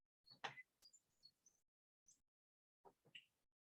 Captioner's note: birds chirping